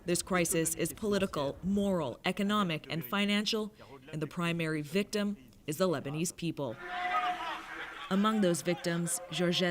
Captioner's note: speaking french language